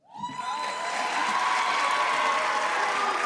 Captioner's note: audience cheers